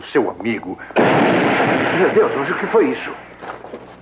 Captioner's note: explosion